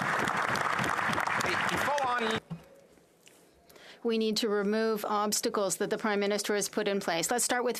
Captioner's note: applause